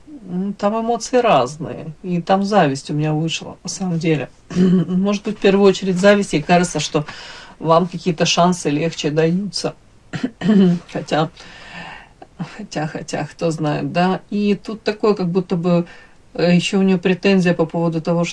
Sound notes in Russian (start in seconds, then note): 4.5 откашливается; 10.1 откашливается